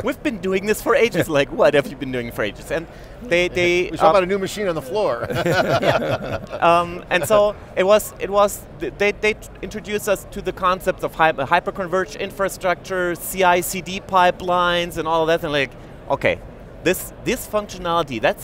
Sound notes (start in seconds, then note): 5.2 laughs